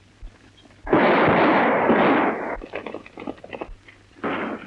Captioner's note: gun shots